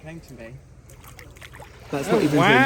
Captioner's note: waves splashing